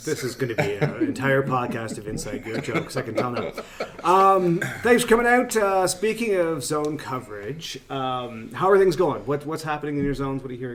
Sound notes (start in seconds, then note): 3.7 men laugh